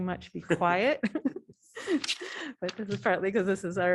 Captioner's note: laughter